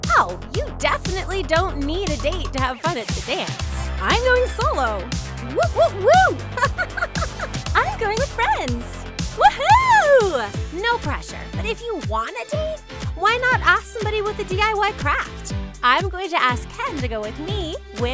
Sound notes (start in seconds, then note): 5.6 laughing